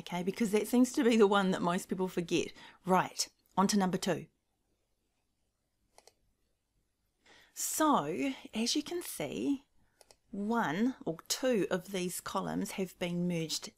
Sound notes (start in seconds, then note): 5.9 mouse clicking